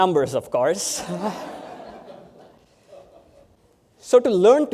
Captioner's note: laughter